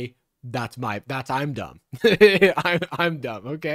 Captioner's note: laughs